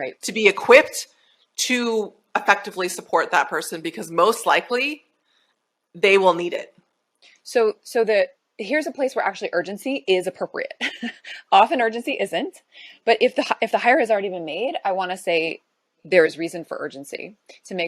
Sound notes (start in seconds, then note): 10.8 chuckles